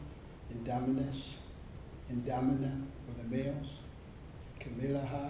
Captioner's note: speaks in foreign language